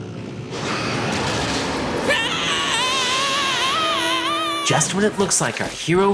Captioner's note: Kazuto screaming; growling